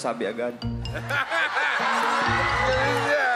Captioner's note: crowd/judge laughing; laughing